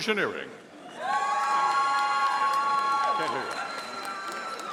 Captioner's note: audience cheering